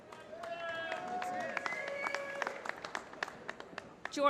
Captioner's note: applause